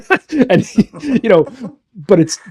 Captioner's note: laughing